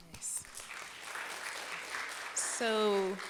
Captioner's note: audience clapping